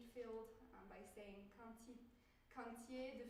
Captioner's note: speaking french